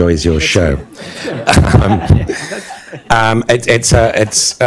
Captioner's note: laughter